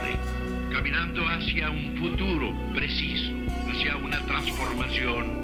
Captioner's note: person speaking Spanish